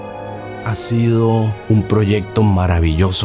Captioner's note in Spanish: en español